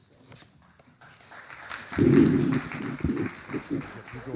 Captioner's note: audience applauding; microphone scraping; audience applauding